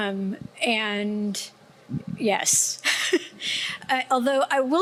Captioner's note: laughing